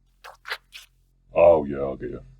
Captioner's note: alien slurping noises